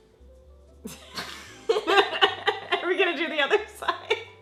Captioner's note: laughs